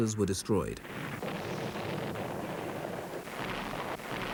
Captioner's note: cannon blasts